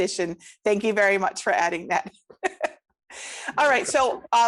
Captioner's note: laughs